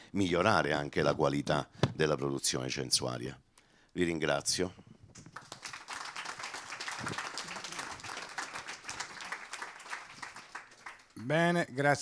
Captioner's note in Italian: Applauso